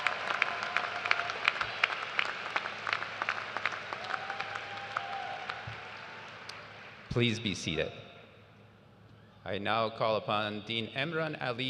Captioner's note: cheers and applause